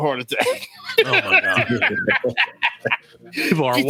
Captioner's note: laughing